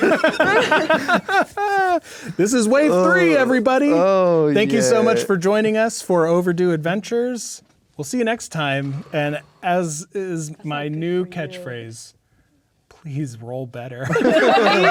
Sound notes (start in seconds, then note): 0.0 players laughing; 3.8 groaning; 11.1 speaking quietly; 14.0 players laughing